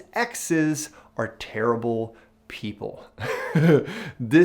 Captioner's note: chuckles